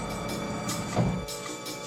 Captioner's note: thud